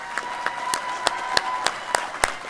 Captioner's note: applause